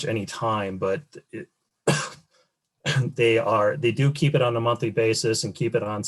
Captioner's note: coughs